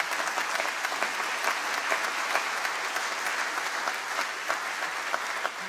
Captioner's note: applause